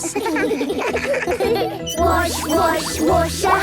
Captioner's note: children giggling